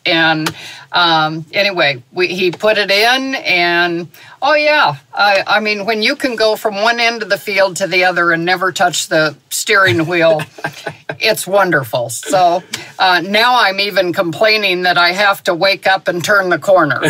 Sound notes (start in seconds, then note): 9.8 chuckles